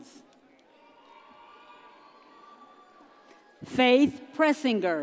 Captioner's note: audience cheers